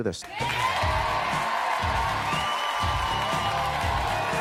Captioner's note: audience cheering